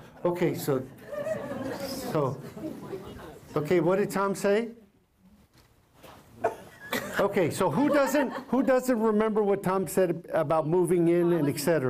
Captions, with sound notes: Okay, so -- [ Laughter ] Okay, what did Tom say? Okay, so who doesn't remember what Tom said about moving in and et cetera?